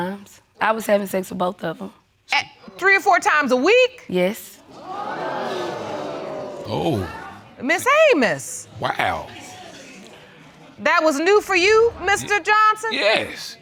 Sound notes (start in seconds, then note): 4.7 audience exclaiming